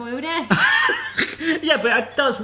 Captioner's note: laughs